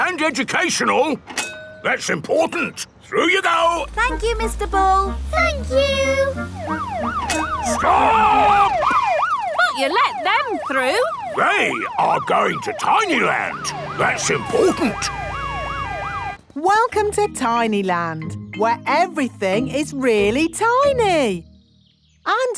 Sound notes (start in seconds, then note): 7.0 siren wailing; 15.3 sirens wailing